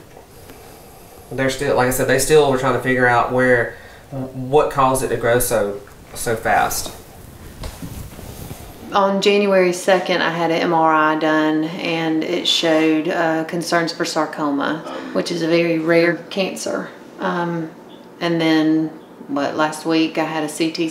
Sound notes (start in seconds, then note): none